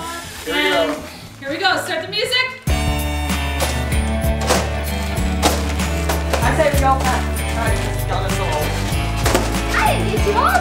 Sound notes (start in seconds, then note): 2.6 upbeat music; 4.3 present thudding